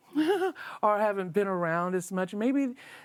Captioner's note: giggles